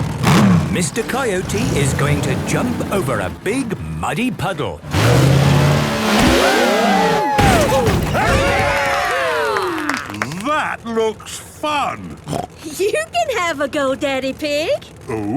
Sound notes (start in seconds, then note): 6.4 crowd; 8.7 applause